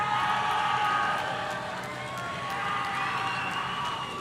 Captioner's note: audience cheering